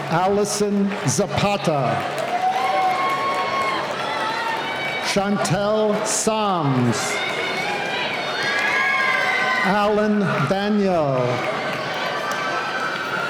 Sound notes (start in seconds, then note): 2.9 cheering; 7.6 cheering